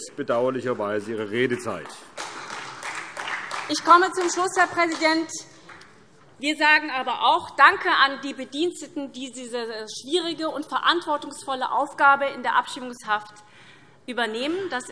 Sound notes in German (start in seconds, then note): 0.6 Beifall SPD